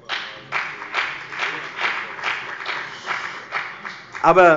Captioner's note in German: Beifall bei der FDP